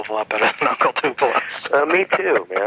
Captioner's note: laughs